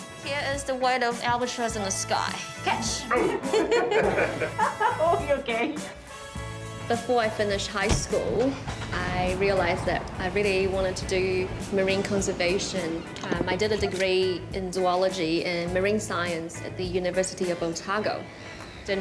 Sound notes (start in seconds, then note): 3.0 all chuckle; 7.2 laughs